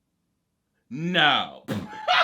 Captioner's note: laughs